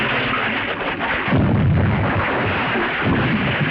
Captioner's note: crash